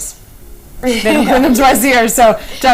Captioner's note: laughing